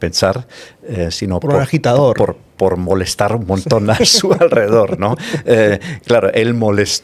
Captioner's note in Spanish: risas